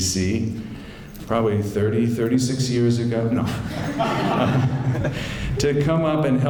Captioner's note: laughter